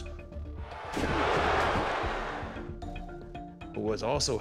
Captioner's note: crowd murmuring